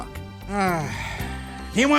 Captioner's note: grunts